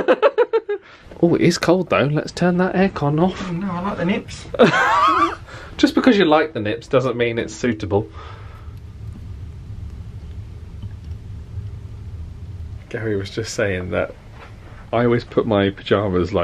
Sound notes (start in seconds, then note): 0.3 laughs; 4.5 laughs